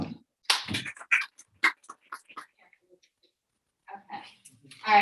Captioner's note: audience applauds